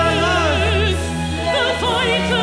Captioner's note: performer speaking Arabic